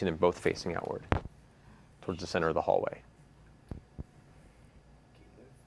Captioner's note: none